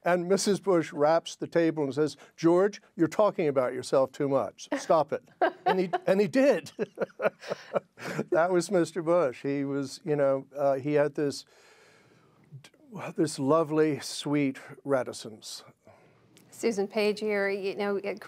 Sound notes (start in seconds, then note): 5.4 laughter